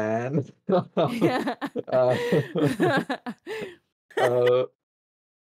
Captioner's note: laugh